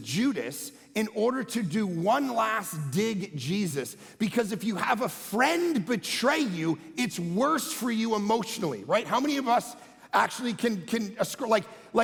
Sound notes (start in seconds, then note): none